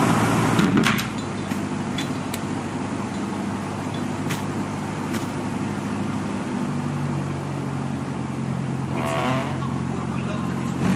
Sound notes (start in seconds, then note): 0.5 door closes